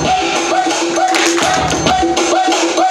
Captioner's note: clapping